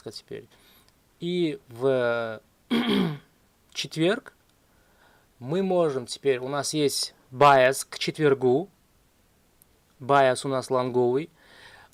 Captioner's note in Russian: откашливается